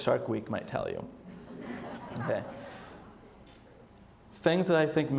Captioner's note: audience laughs